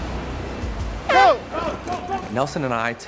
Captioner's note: horn blares